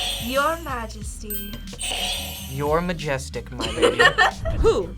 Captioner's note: buzzer rings; laughs